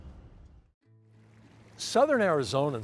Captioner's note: relaxing music; water trickles